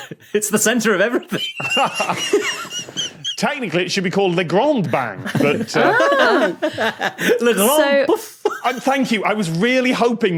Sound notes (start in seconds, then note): 1.0 laughs; 1.2 wheeze; 4.8 guests laughing